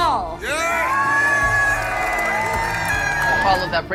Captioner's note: crowd shouting and cheering